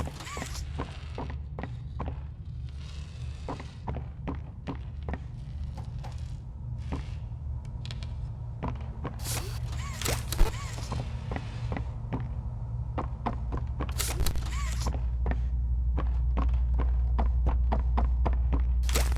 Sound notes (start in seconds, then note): 2.6 footsteps